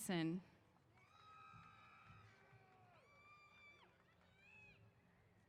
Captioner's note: cheers